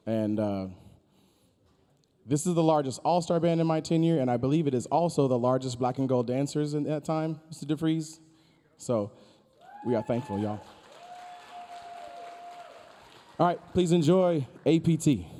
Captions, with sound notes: and this is the largest All-Star Band in my tenure. And I believe it is also the largest black and gold dancers in that time, Mr. Defreeze? So, we are thankful y'all. (audience cheering) (audience applauding) All right, please enjoy APT.